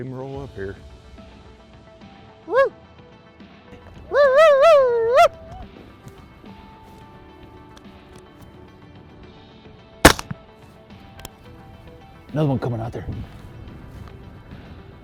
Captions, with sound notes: It ain't gonna work here. (coyote calls) (gun fires) There's another one coming out there.